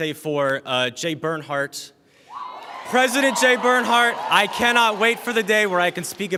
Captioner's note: applause